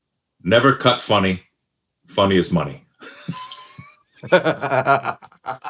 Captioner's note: group laughs; laughs